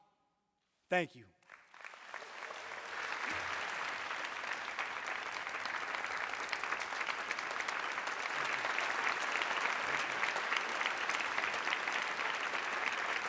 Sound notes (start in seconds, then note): 4.5 applause; 7.9 cheering